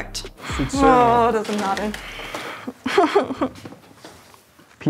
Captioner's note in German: Weinerliche Laute